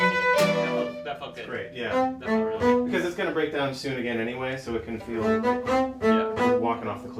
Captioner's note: playing and chatter